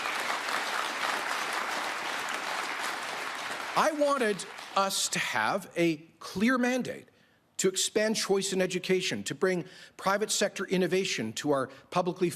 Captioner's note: applause